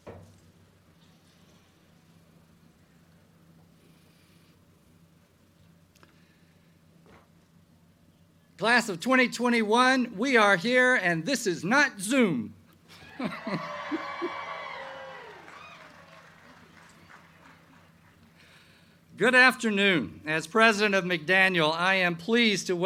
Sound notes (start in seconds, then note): 12.9 crowd cheering